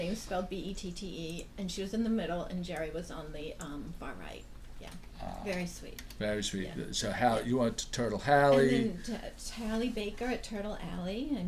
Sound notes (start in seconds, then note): 6.5 voiceover